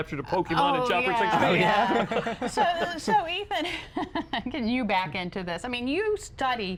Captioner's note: laughter